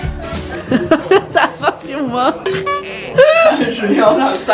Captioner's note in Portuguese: rindo